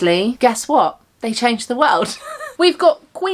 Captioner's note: laughs